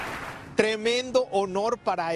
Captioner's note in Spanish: aplausos